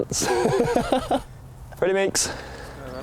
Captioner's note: laughs